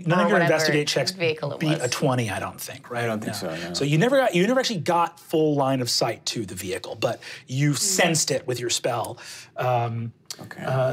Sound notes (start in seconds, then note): none